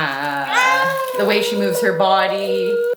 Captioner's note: vocalizing